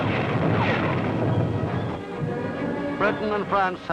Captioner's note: dramatic music; artillery blasting